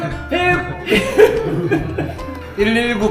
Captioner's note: laughs